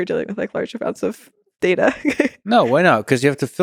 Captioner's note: laughs